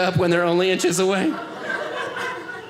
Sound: audience laughing

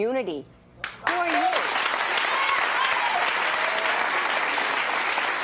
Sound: audience applauding

